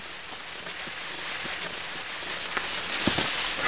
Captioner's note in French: bruissement